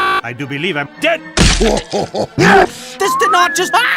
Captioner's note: chuckles